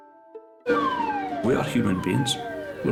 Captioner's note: siren wailing